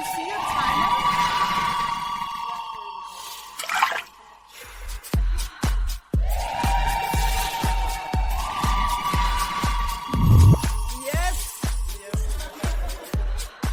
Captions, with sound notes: Can you see your tongue yet? - Yup, there it is. (techno music) (electronic blip) Yes! Yes!